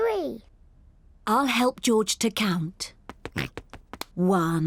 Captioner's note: snorts